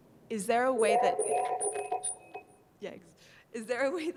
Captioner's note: voice echoes